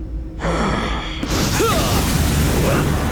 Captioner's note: grunting